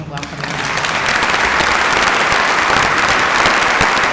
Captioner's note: applauding